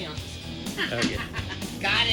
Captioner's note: laughing